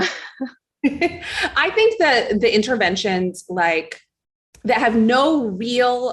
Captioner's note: chuckles